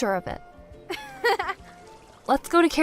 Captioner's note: chuckles